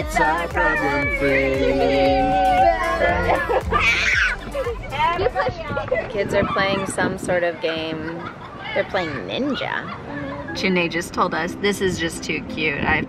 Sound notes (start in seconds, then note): 0.0 children laughing and giggling; 4.1 children screaming